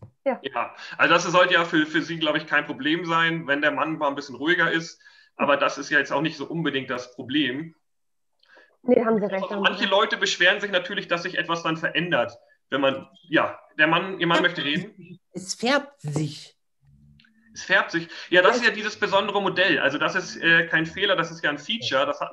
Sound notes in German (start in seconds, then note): 15.3 lallt